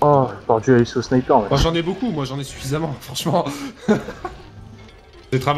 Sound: laughs

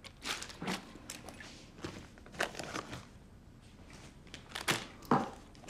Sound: rustling continues

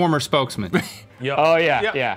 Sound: laughing

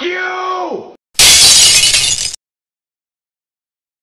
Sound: broken glass

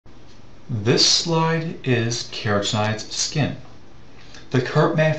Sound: voiceover

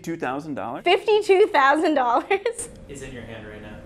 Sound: laughs; laughs

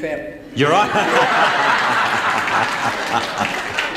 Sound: laughs

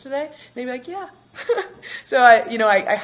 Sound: chuckles

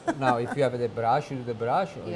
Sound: laughter

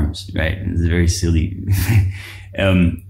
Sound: chuckles

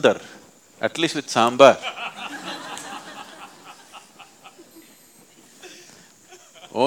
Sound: laughter

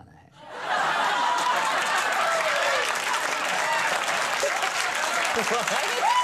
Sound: studio audience laughs; studio audience cheers

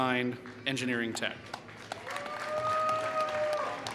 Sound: applause

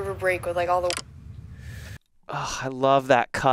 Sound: clicking

